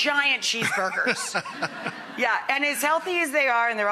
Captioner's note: laughs